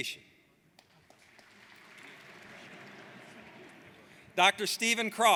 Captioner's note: audience applauds; laughing